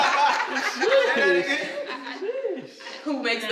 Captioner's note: laughter